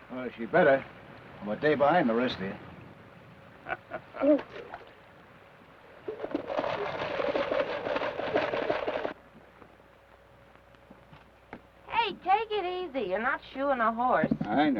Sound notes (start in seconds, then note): 3.6 Theodore chuckles; 6.5 rocker box rattles